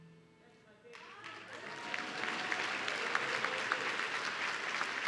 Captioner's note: audience cheering